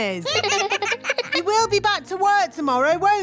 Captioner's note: children laugh